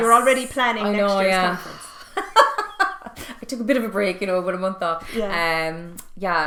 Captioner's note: laughing